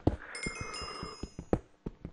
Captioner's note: yawning